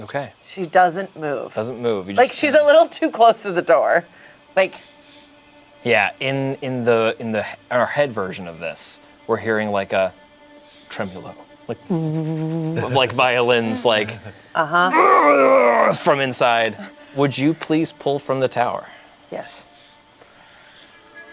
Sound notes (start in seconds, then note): 14.9 groans; 21.1 suspenseful music